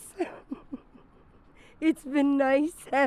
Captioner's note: laughter